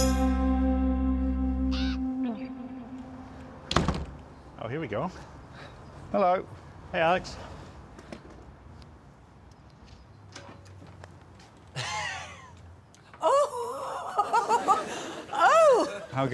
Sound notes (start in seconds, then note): 1.7 bird cawing; 13.2 chuckling; 13.2 laughs